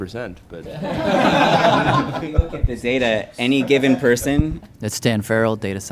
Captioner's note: participants laugh